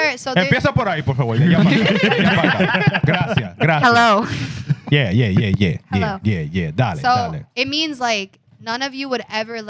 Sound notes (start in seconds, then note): 0.5 speaking In Foreign Language; 1.3 laughing